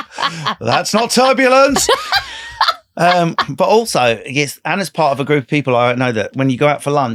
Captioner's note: laughing